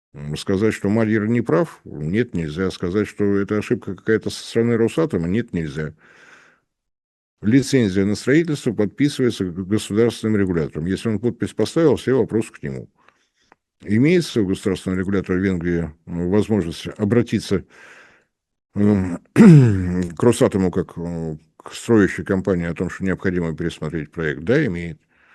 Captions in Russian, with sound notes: Сказать, что Мальер не прав, нет, нельзя. Сказать, что это ошибка какая-то со стороны Росатома, нет, нельзя. Лицензия на строительство подписывается государственным регулятором. Если он подпись поставил, все вопросы к нему. Имеется государственного регулятора Венглии возможность обратиться [откашливается] к Росатому как к строящей компании о том, что необходимо пересмотреть проект. Да, имеет.